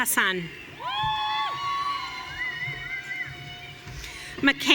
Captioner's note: audience cheering